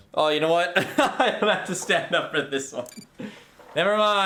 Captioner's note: laughing